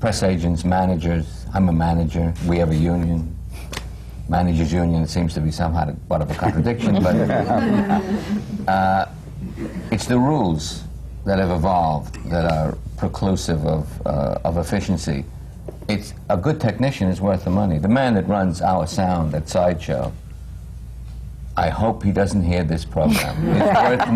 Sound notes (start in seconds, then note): 9.4 laughter; 23.0 laughter